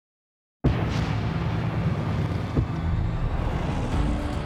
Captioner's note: fireworks roar; upbeat music